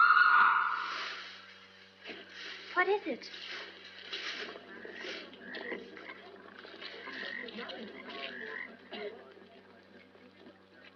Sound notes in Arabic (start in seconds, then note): 0.0 صرخات امرأة; 6.1 محادثات ونقيق الضفادع